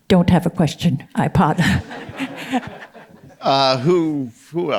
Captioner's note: audience members laughing